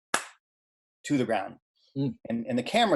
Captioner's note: clapping